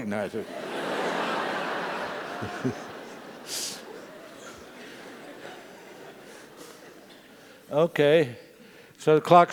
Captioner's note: laugh